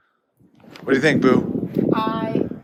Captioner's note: wind blowing